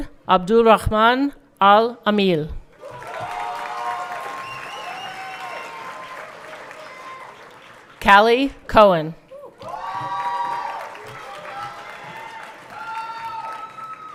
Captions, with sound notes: Saud Abdulrahman Alameel. (everyone clapping) Kellea Cohen. (everyone cheering)